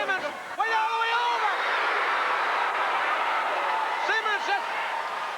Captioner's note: crowd cheering